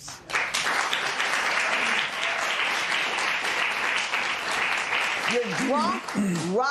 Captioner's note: applause